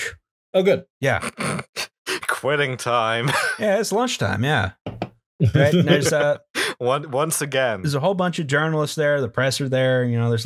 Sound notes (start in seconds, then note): 2.7 worker voice; 5.4 laughter